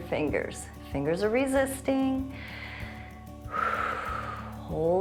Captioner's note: inhales and exhales